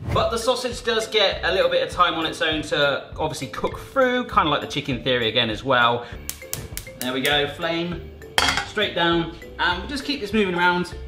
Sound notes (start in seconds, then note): 6.2 burner clicks